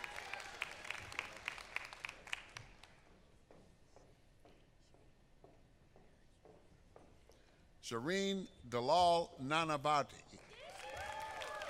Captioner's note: applause